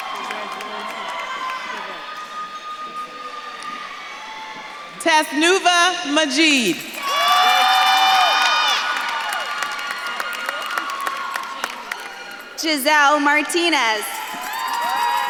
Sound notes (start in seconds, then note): 3.3 audience claps and cheers